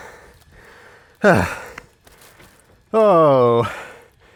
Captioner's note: sighs